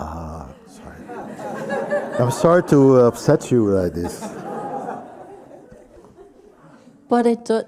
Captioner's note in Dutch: gelach